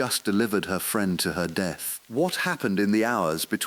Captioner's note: exhale